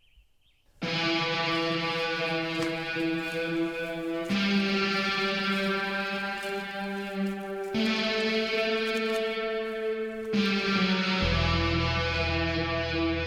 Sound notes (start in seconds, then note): 0.1 ominous music; 4.6 footsteps